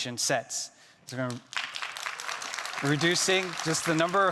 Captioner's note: attendees clapping